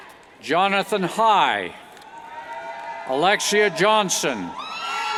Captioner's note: cheers